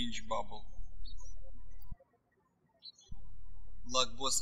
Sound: birds chirping

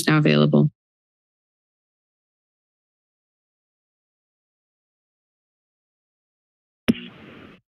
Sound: silence

